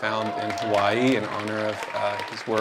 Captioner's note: cheering